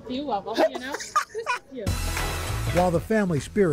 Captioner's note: laughter